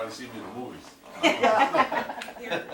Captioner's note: laughing